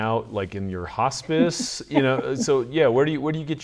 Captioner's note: laughs